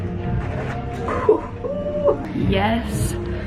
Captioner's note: whoops quietly